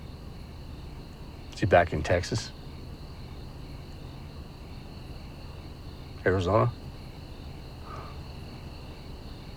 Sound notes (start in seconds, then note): 3.0 insects chirping